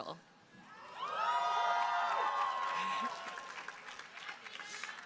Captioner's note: crowd cheering